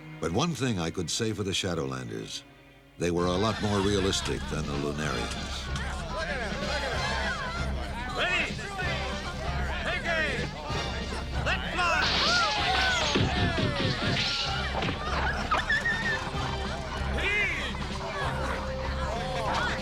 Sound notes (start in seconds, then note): 12.2 cheering; 15.1 squealing